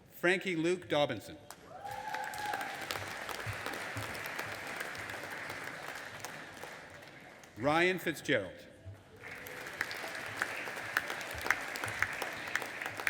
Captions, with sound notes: Frankie Luke Dobinson. (AUDIENCE APPLAUDING AND CHEERING) Ryan Fitzgerald. (AUDIENCE APPLAUDING)